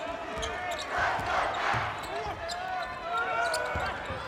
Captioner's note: crowd chants